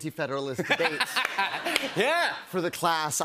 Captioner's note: laughter